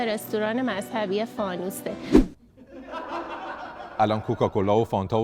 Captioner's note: laughter